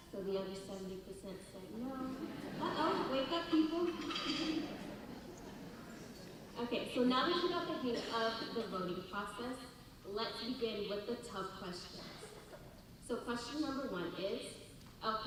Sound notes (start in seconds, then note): 4.0 audience laughter